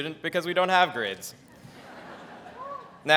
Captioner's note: audience laughs